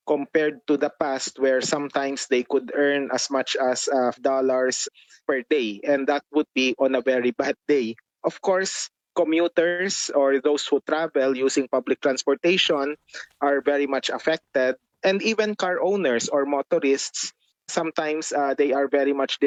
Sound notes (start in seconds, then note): none